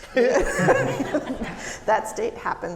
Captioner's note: audience laughing